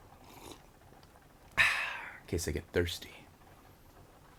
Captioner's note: sips water